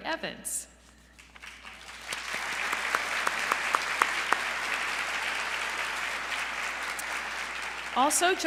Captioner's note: applause